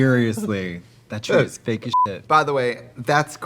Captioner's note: Katya laughing; beeping